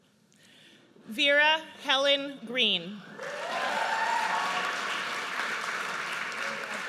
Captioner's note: audience cheers